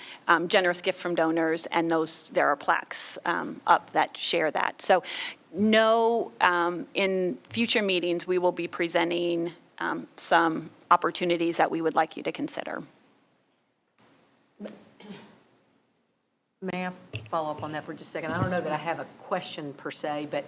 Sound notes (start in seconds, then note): 15.0 clears throat